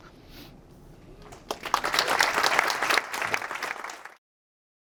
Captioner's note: audience applause